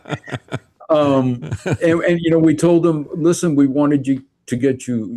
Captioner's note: laughing